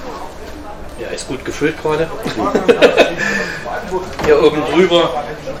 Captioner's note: laughter